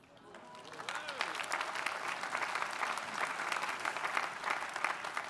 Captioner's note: audience applauding